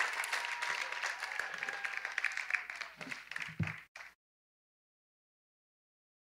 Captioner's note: cheers and applause